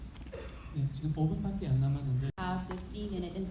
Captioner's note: speaking in foreign language